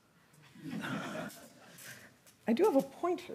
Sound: audience laughing

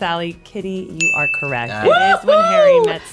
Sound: bell dinging

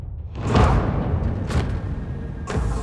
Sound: people chanting

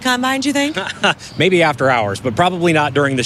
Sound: laughs

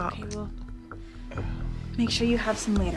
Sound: groans

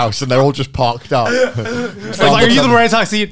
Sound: laughing

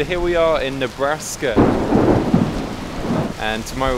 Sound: thunderclap booming

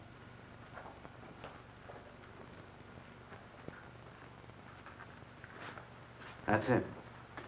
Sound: shuffling footsteps

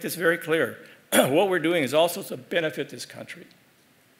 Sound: cough

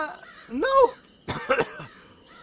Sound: cough cough

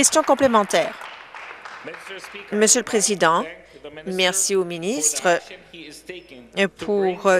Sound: applause

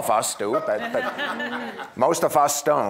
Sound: audience laughing

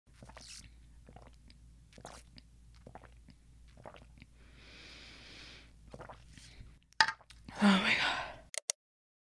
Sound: obnoxious drinking noises

